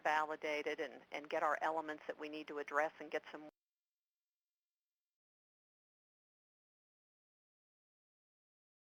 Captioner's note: audio cuts out